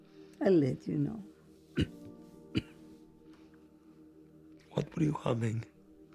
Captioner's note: Zora coughs